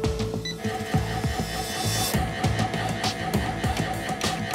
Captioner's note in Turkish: Cihaz gürültüsü